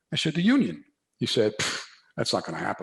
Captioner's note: puffs